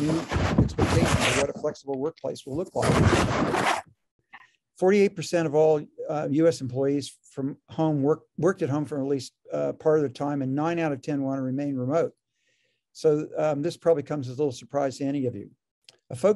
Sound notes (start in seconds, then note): 2.4 rasping interference drowns out speaker